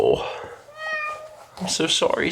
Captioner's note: Sagan meowing